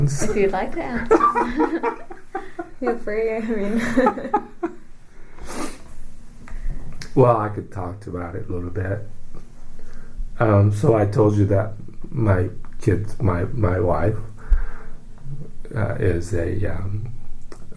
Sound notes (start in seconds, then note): 0.9 laughs